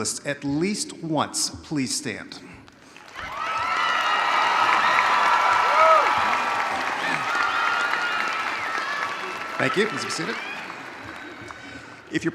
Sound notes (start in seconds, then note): 3.2 audience cheering